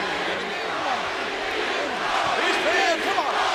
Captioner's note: audience chanting